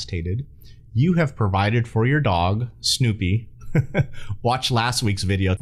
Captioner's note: chuckles